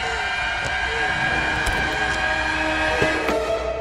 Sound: door unlocks

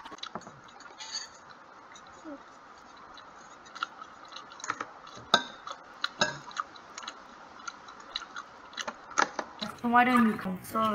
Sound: high quality asmr sounds

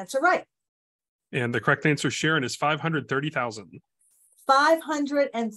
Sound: voiceover

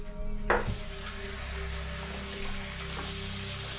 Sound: water rushing

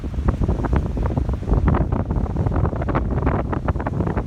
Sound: wind gusting

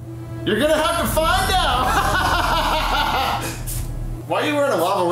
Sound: laughs

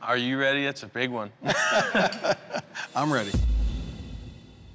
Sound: laughs

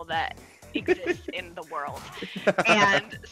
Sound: laugh

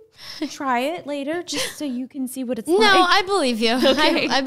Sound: laughing

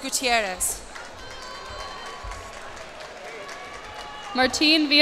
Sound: cheers and applause

